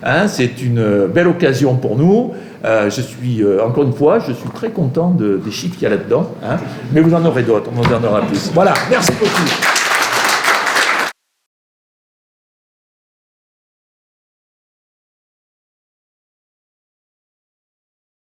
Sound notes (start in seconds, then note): 8.6 applause